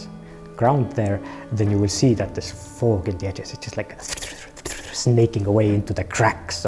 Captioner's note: hisses